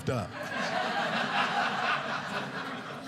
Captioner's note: audience laughing